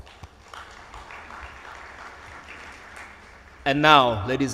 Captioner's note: audience applauds